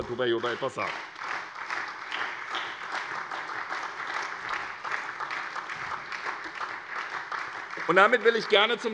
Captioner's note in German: Beifall SPD